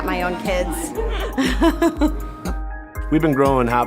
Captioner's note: laughter